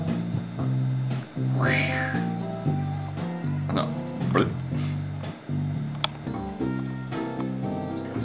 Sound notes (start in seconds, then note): 1.5 swoosh; 4.6 blup